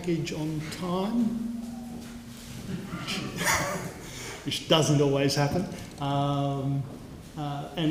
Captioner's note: laugh